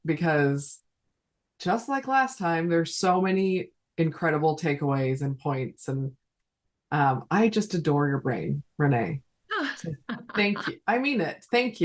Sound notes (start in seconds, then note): 10.1 chuckling